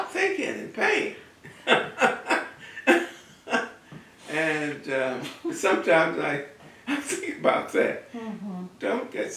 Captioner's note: laughs